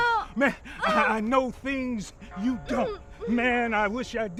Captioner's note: gasps